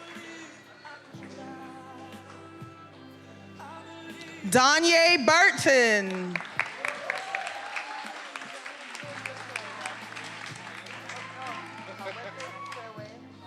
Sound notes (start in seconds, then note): 5.2 attendees cheering and applauding